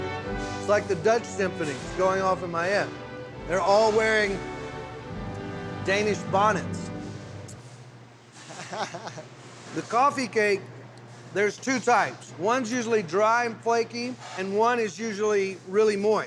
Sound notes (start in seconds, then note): 8.4 chuckling